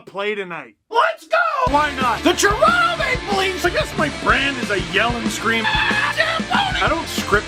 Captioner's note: rock music plays throughout intro; screams